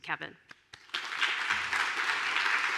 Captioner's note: applause